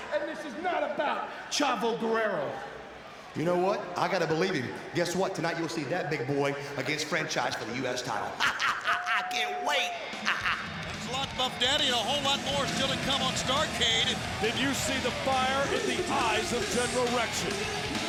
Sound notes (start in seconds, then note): 8.1 laughs